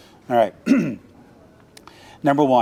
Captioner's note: clearing throat